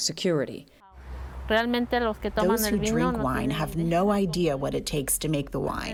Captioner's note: through translator